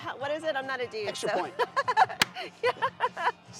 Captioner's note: chuckles